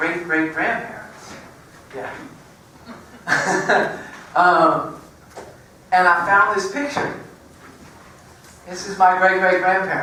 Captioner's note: laugh